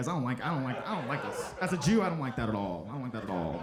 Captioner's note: audience laughing